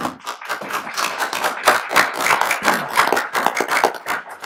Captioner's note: applauding